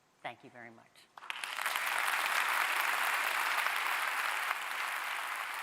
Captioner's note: audience applauding